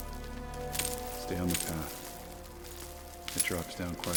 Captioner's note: rocks clattering